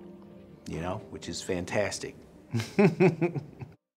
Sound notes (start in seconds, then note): 2.5 laughter